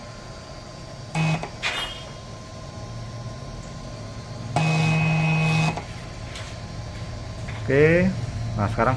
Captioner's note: heater noise